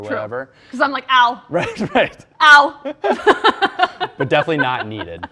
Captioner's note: laughs